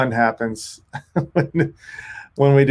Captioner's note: laughs